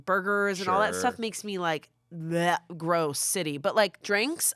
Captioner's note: gags